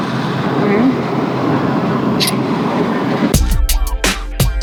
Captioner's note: smooching; seductive music